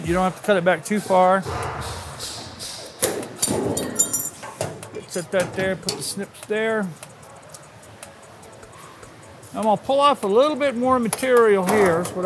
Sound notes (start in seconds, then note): 3.4 metal clanks